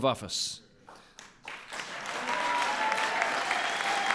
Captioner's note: applause